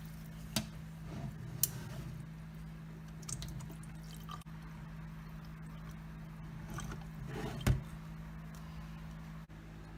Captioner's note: draining water